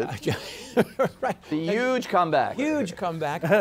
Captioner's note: laughs